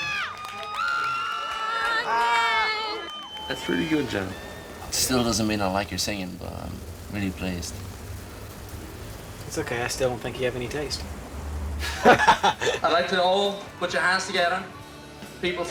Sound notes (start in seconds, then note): 11.8 both laugh